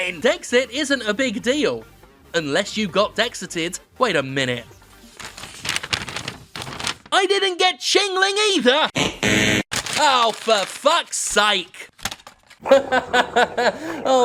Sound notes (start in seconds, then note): 5.0 paper crumpling; 8.8 buzzer buzzes; 12.6 laughs